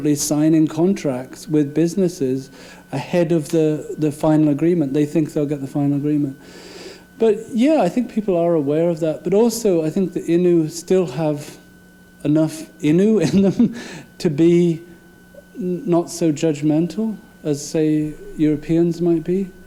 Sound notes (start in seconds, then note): 13.2 laughing